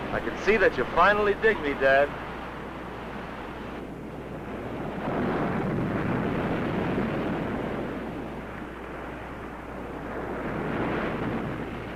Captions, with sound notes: - I can see that you finally dig me, dad. (waves roaring)